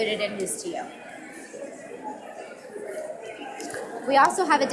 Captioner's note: audience mumbling